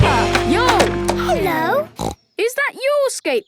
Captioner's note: snorts